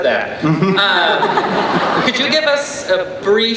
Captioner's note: laughing